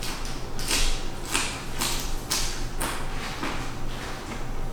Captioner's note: Crunch